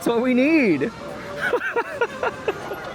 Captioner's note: laughter